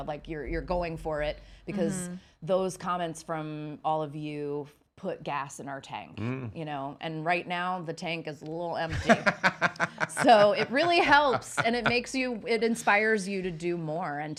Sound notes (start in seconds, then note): 8.9 laughing